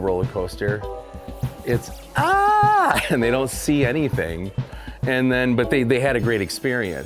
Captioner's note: screams